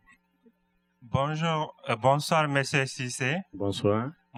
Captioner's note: speaking french